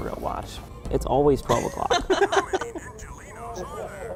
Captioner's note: all laughing